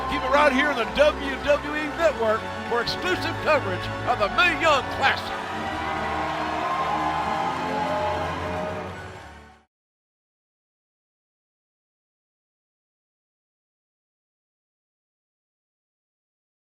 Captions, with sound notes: AND FOLKS, WHATEVER YOU DO, KEEP IT RIGHT HERE ON THE WWE NETWORK FOR EXCLUSIVE COVERAGE OF THE MAE YOUNG CLASSIC. [CHEERS AND APPLAUSE]